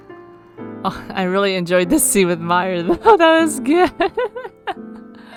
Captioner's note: laughs